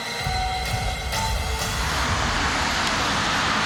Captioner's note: water splashing